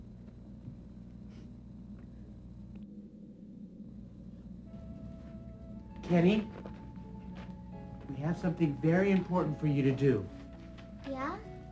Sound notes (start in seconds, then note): none